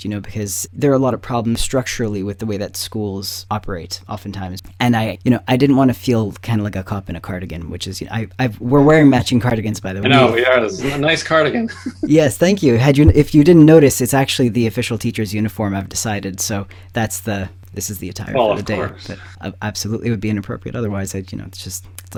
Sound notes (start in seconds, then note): 10.0 laughing